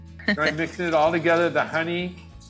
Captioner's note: friend chuckling